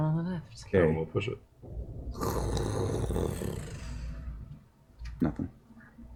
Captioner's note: sliding